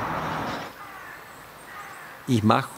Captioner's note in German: Krähenrufe